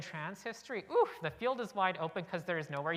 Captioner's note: exclaims